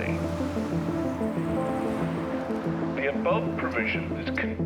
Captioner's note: wind whipping